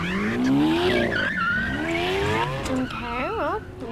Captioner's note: tires screeching